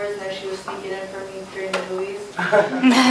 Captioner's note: laughter